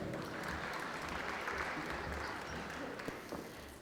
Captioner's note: applause